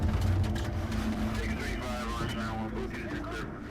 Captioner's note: police radio